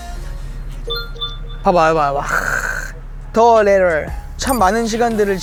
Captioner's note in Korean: 띠링